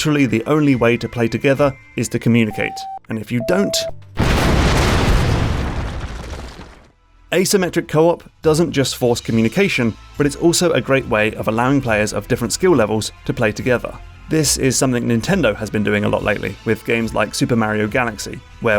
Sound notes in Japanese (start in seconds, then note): 4.1 爆発音